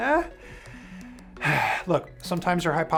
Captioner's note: sighs